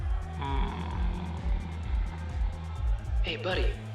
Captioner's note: groaning